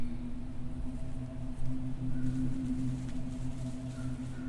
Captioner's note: foliage rustling